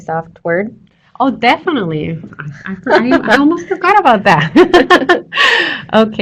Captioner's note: laughter